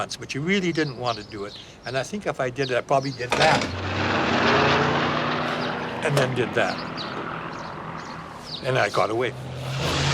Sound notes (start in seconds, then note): 3.4 aircraft engine roars